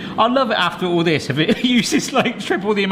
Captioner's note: chuckles